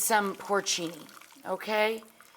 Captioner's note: puree pouring